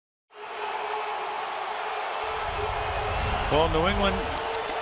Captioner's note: cheering